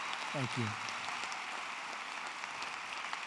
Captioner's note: applause